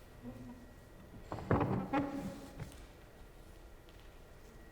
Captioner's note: papers rustling; wood thumping; chair scraping